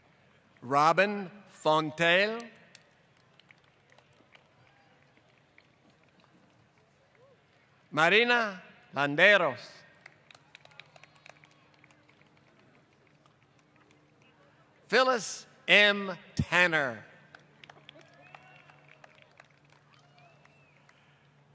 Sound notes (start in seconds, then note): 2.7 applause; 10.0 applause; 17.2 applause